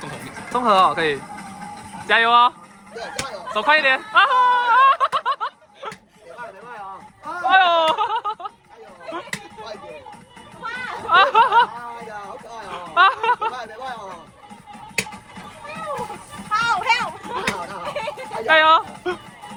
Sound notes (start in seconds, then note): 7.3 dying of laughter